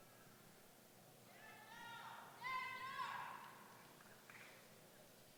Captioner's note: shouting